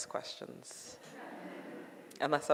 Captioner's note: audience laughing